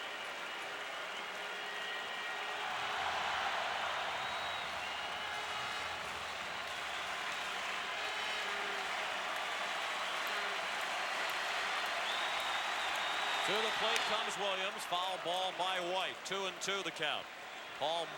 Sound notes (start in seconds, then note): 1.8 applause; 3.0 cheering and Applause